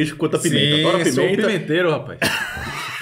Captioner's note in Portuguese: risos